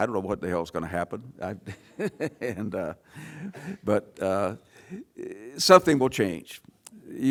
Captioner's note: laugh